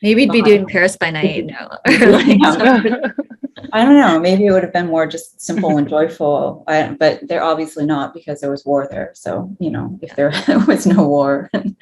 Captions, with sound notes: - Maybe you'd be doing "Paris by Night." (all chuckling) - I dunno, maybe it would've been more just simple and joyful but there obviously not because there was war there so... If there (chuckles) was no war.